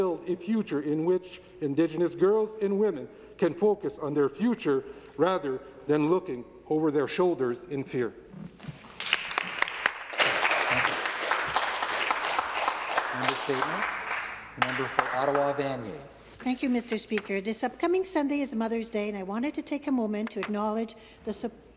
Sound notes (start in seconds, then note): 15.5 some Applause